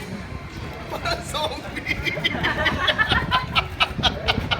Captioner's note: laughing